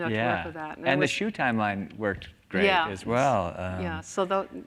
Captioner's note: laughs